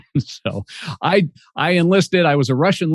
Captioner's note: chuckles